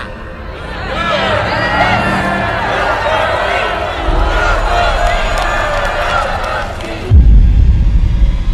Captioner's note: applause; boom